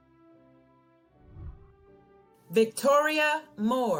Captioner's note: whooshing